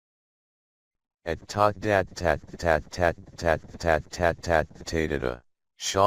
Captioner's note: automated voice glitching